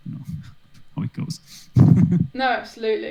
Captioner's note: laughs